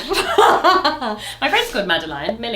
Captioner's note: both laugh